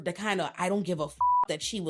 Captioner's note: beep